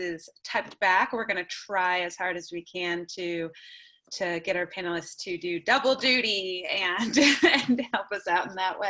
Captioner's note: laughter